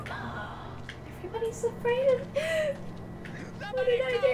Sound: fake sob

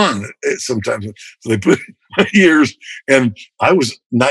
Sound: laughter

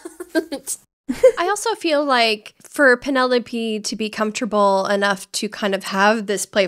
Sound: both laughing

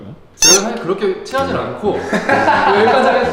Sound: laughing

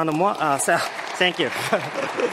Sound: audience clapping

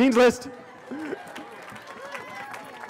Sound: cheering

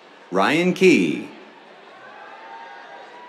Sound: cheers

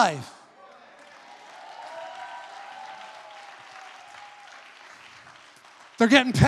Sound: audience applauds

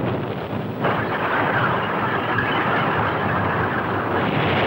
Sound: tank rumbling

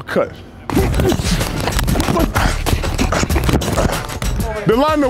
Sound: grunting

